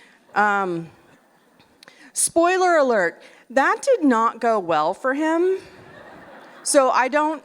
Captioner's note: laughter